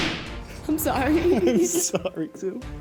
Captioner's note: chuckles